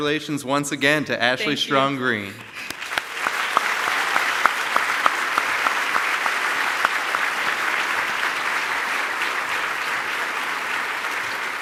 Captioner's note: applause